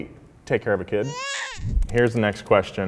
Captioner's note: baby crying